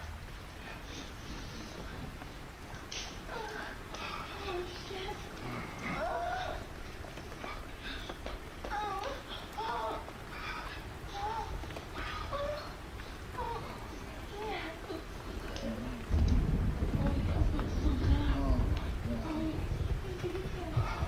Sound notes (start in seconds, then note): 0.1 woman moaning; 7.1 heavy breathing